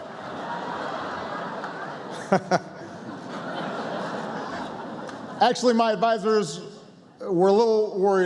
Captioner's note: laughter